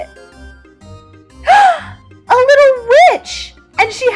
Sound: gasps

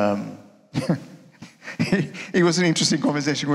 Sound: chuckling

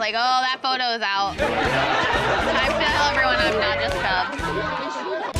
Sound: laughter

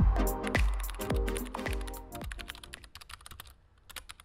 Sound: keyboard clicking

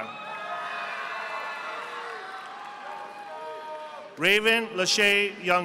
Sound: audience applauding

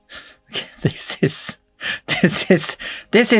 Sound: difficult to talk because of urge to laugh

